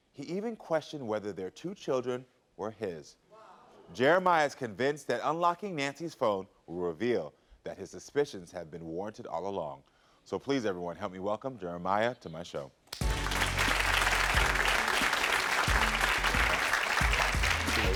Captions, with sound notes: He even questioned whether their two children were his. Jeremiah is convinced that unlocking Nancy's phone will reveal that his suspicions have been warranted all along. Please, everyone, help me welcome Jeremiah to my show. (audience applauds)